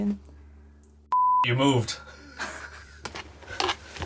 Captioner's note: beeps; laughs